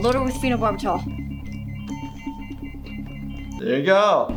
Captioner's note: monitor beeping